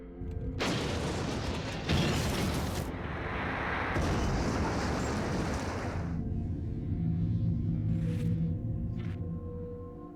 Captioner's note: explosions